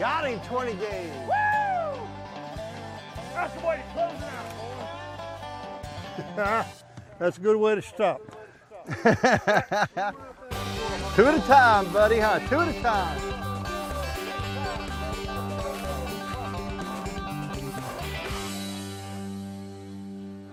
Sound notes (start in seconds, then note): 8.8 laughing